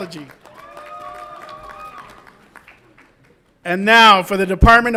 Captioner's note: audience applauds and cheers